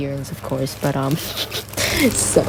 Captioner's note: snickers snobbishly